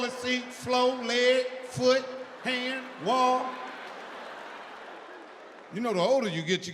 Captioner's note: audience laughs